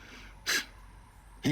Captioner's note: laugh